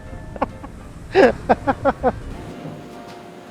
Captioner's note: laughs